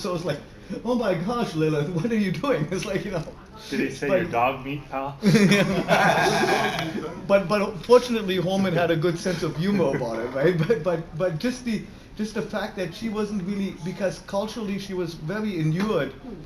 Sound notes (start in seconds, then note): 5.2 laughter